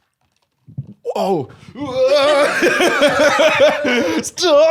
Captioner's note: laughs